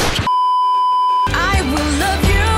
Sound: beeeeeep

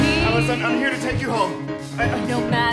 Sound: speaking

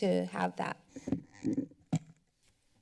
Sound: mic noise

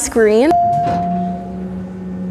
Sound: elevator dings

